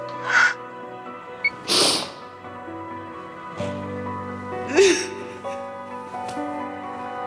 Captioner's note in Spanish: Sollozos